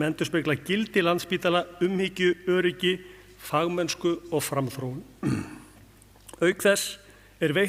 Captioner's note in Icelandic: ræskir sig